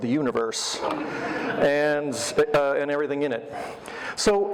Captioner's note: audience laughter